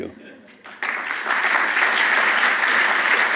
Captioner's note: applause